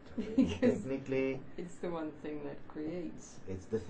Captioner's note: chuckling